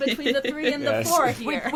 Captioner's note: laughs